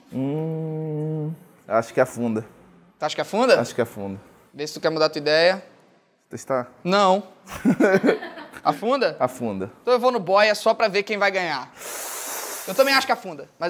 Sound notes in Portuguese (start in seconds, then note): 7.5 risadas